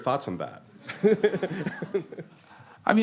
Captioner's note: laughter